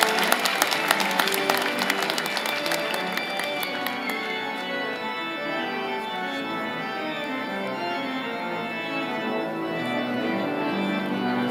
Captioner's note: cheers and applause